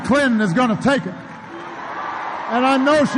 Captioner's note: applause